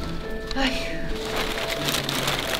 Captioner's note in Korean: 한숨; 바스락 소리